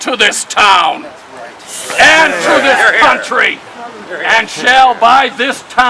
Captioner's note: crowd